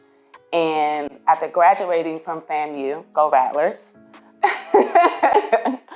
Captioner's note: laughs